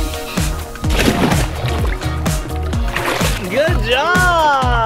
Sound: splash

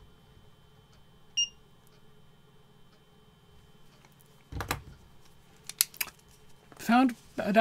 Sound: beep

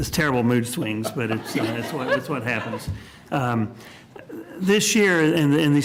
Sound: laughter

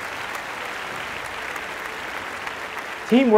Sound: applause

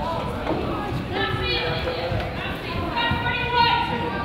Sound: crowd chatters

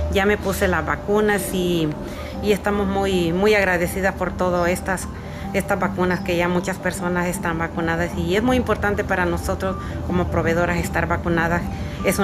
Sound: speaking spanish

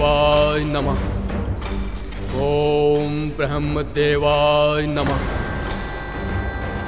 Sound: jingling

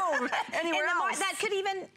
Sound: laughter

